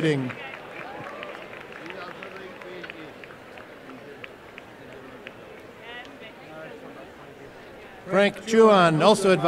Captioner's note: applause and cheering